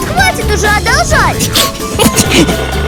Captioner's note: laughing